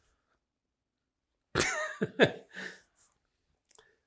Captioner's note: laughing